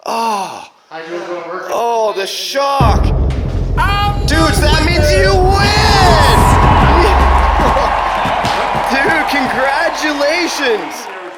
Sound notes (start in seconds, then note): 2.8 ominous music; 6.8 cheering; 7.6 fireworks